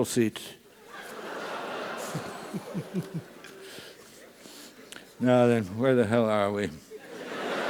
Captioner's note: laugh; laugh